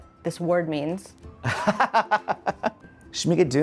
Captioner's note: laughing